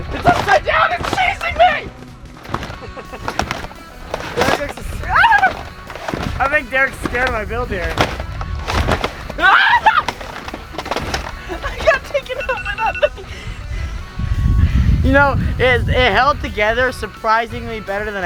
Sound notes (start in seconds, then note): 2.6 laughs gleefully; 9.4 screams loudly